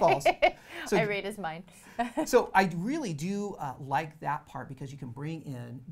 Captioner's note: laughs